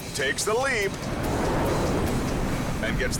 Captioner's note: wind howls